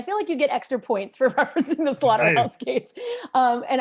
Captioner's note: laughter